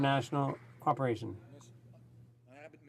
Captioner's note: some Applause